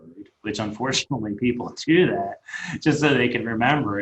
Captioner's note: laughing